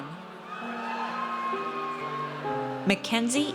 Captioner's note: audience cheers